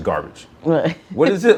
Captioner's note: laughs